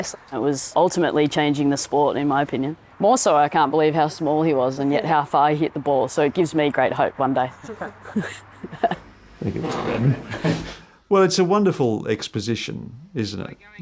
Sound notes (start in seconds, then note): 7.6 chuckles